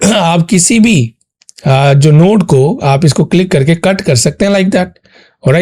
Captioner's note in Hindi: गला साफ़ करने की आवाज़